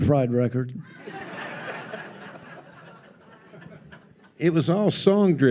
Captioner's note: audience laughs